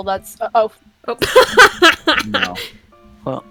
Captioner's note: laughs loudly